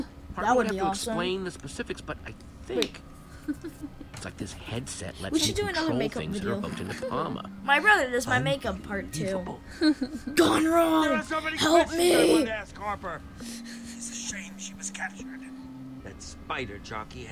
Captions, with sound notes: - That would be awesome. (laughing) - We should do another makeup video. - My brother does my makeup part two. (laughing) - Your on your own! Help me! (laughing)